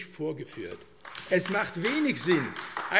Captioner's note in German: Beifall AfD